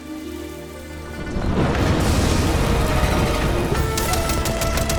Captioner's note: thunder crashes